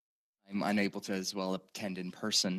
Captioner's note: speaking French